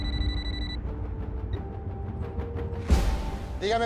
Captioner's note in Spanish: Suena un celular